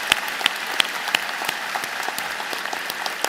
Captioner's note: applause